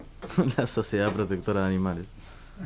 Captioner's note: laughs